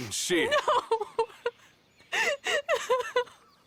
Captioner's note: cries